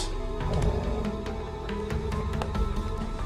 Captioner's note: the dog growls